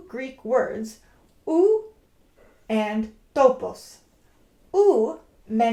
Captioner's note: speaks foreign language